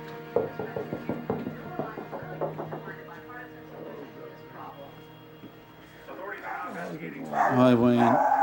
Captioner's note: knocking